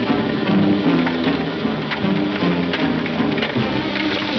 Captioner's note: wagon rustling; hooves clunking rapidly